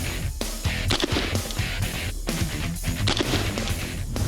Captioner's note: gunshot; hard rock music; gunshot